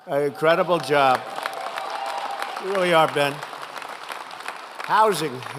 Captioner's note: applause